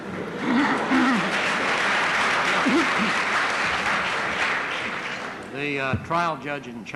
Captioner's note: applause